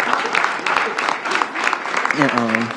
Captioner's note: applause